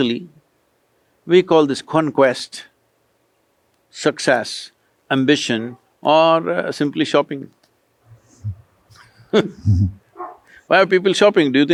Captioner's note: laughs